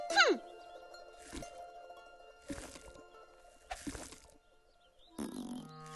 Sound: chumping

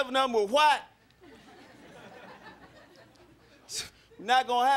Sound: crowd laughing

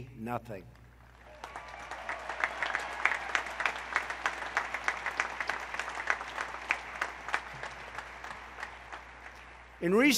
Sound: applause

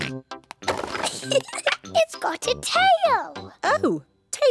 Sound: giggles

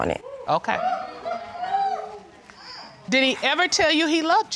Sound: audience hooting

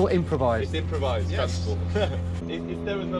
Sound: laughing

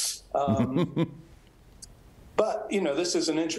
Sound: laughs

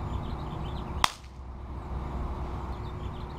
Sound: capacitor Pop

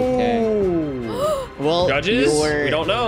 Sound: gasps

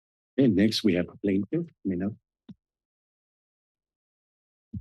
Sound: background conversations

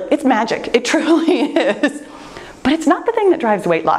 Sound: laughs

